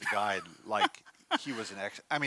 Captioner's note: laughs